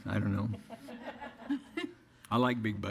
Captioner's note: audience laughter